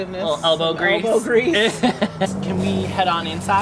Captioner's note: laughter